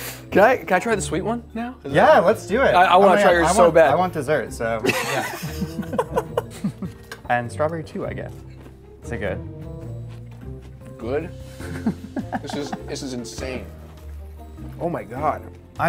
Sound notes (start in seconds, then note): 4.8 both laugh; 11.6 laughs